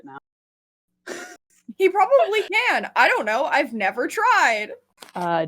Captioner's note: laughs